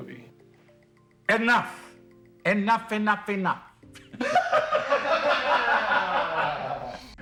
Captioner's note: laughter